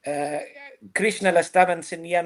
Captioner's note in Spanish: none